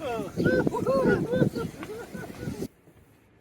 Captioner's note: all chuckling